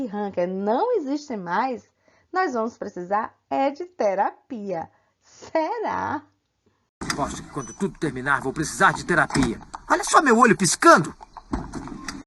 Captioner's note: laughs